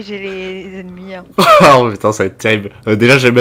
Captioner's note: laugh